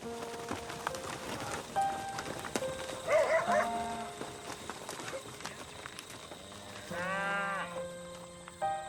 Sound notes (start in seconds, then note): 0.0 piano music; 3.0 dog barks; 6.7 cows mooing